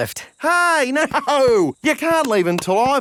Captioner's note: laughing